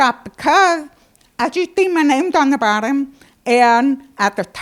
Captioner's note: none